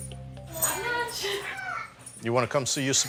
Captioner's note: laughs